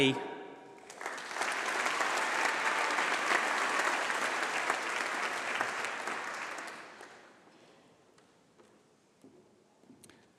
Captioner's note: applause